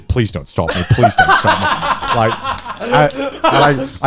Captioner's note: guys laughing